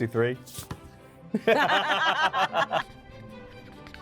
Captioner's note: both laughing; theatrical music